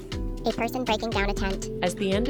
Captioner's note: voiceover